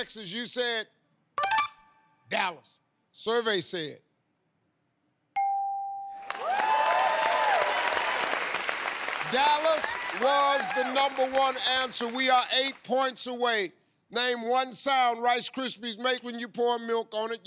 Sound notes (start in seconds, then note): 5.3 ding!; 6.2 cheers and applause